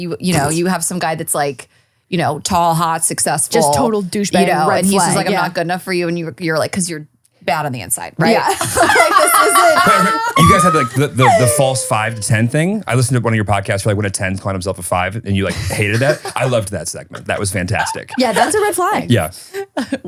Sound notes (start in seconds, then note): 9.9 laughing